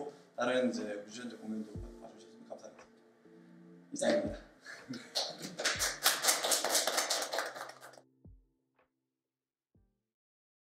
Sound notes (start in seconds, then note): 5.1 applause